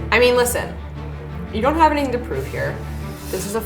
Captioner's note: none